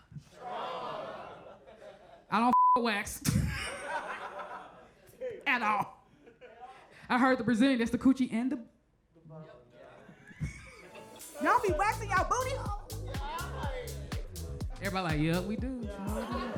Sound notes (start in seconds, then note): 2.5 beep; 4.1 audience laughs